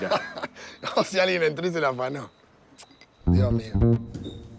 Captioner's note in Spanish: Riendo